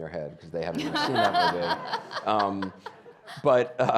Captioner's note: audience laughing